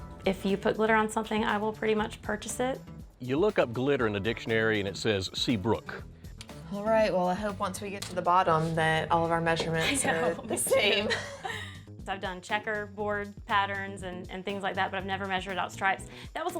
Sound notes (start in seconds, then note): 9.8 chuckling